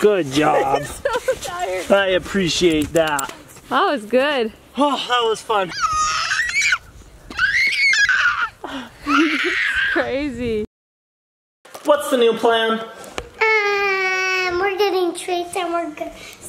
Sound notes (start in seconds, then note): 0.5 laughing; 7.3 screaming